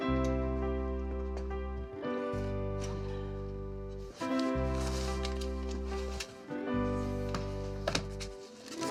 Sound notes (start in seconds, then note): 0.0 gentle music continues; 4.0 book rustling